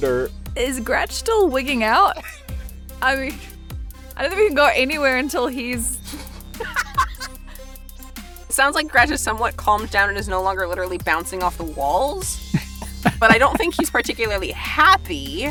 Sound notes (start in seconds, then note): 6.6 laughs